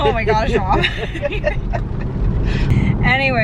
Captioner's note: both laughing